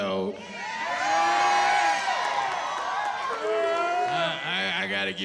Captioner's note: cheering